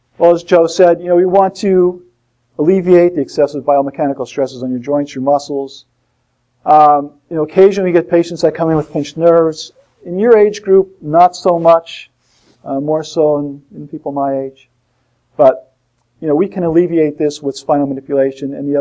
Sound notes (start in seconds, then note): none